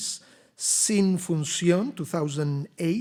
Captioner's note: speaks Spanish